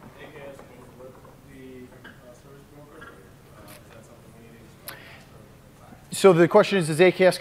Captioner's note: off mic